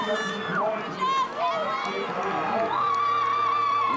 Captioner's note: crowd Cheering